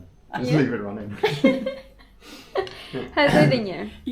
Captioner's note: laughter